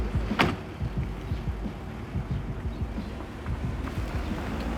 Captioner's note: birds chirping